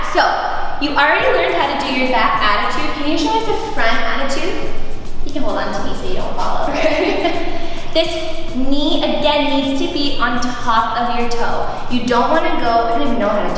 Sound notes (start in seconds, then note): 6.6 laughs